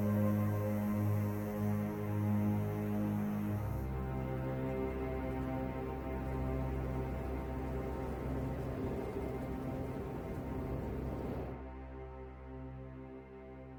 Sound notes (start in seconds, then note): 3.7 light winds; 11.5 music fades out